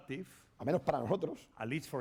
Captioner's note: speaking spanish